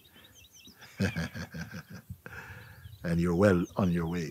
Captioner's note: γέλια